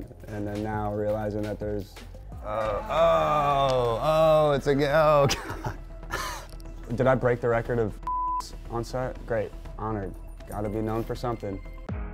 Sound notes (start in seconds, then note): 8.0 beep; 11.8 upbeat music